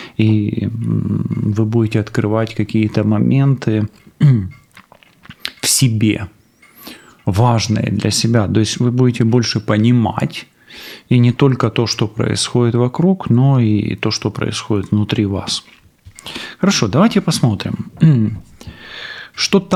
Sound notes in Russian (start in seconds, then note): 4.1 откашливается; 16.2 фыркает; 17.8 откашливается